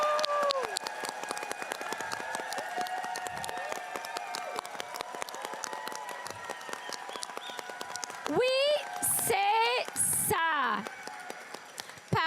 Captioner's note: cheering and applause